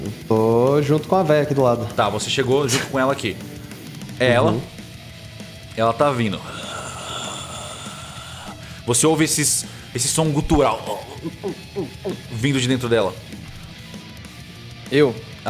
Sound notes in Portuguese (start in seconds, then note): 6.4 Gemido fantasmagórico; 10.3 gulp, gulp, gulp